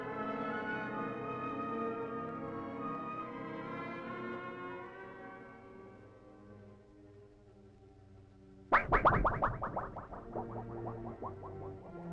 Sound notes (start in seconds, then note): 8.7 strange modulating